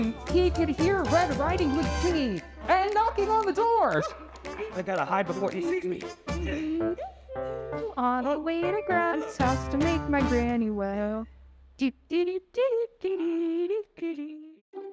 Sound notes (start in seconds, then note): 7.1 Red hums; 12.0 Red hums